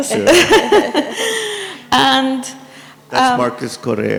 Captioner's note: laughs